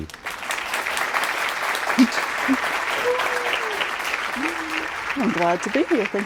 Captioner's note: applause